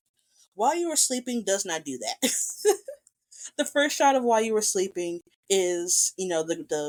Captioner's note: laughs